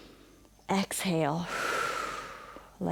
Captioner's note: inhales; exhales